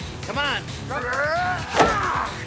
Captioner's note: grunting